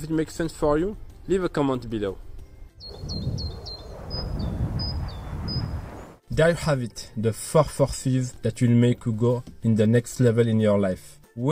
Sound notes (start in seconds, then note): 2.8 bird singing; 2.8 plane whooshing